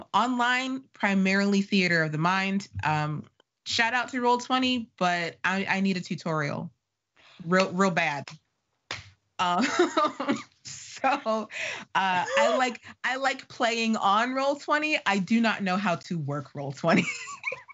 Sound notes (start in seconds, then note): 10.0 laughing